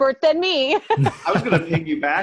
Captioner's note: laughing